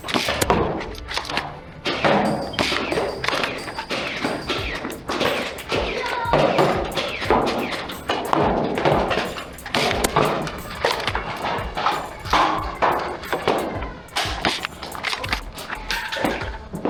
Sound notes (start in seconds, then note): 0.0 multiple blasters thunking; 5.7 child cheering; 6.9 multiple blasters thunking; 10.2 motors revving and multiple blasters thunking; 15.8 clattering